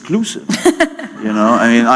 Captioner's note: laughter